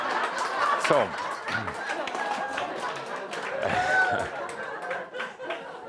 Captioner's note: lots of laughter